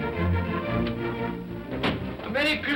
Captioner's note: door bangs open